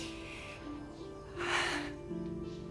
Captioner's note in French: soupirs